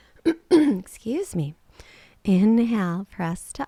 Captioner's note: clears throat